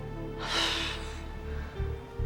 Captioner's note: exhales